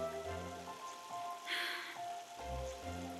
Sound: sighs

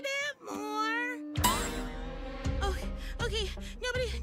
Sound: boing!

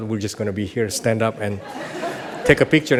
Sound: audience laughs

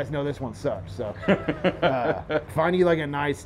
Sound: laughs

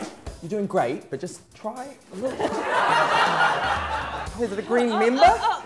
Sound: audience laughter

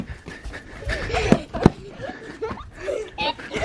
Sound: giggling

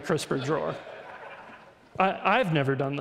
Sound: audience laughs

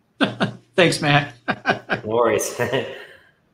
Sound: laughing

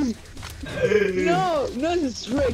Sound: weird Animal sound

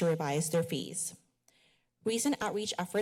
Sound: pause

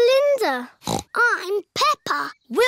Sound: snorts

